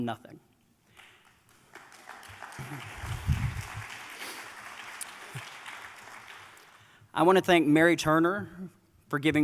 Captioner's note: applause